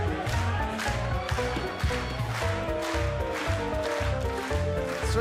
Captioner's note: clapping